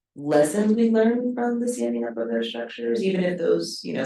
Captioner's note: speaking faintly